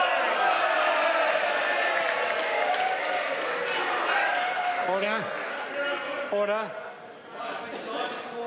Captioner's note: members cheer